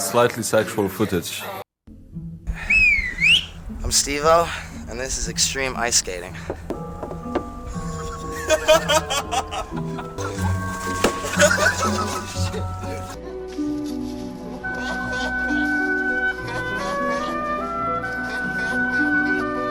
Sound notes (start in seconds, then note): 2.5 whistle